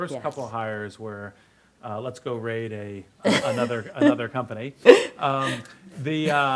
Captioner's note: laughs